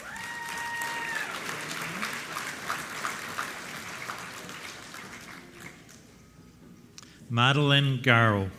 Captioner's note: applause